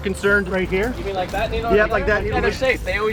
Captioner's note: murmurs